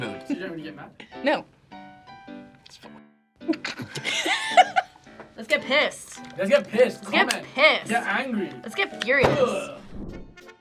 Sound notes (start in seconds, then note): 1.8 whispers; 3.4 both laugh; 10.3 playful music